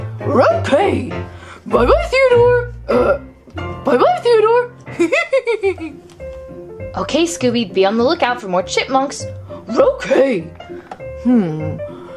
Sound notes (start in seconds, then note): 2.8 chokes; 5.0 snickers